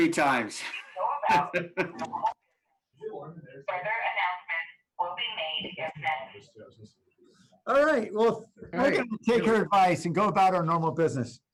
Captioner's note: laughter